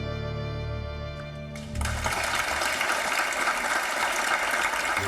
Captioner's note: audience applauds